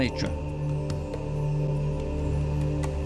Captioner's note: men chanting